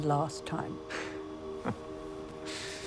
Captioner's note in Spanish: Jim se ríe